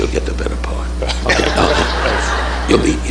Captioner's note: audience laughing